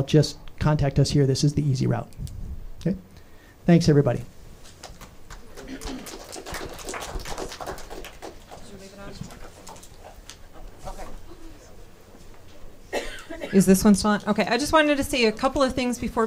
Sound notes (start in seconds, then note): 4.8 audience applauding; 8.9 speaking off mic